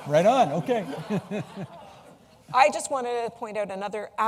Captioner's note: laughter